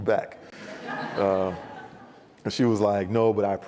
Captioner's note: audience laughs